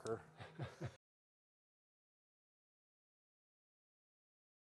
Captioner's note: chuckling